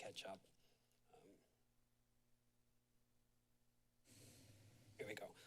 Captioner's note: silence